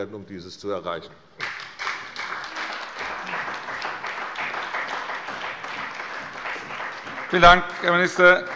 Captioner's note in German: Beifall bei der CDU und dem BÜNDNIS 90/DIE GRÜNEN